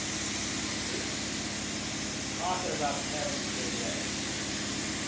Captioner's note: spraying continues